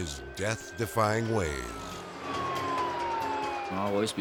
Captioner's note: sirens blaring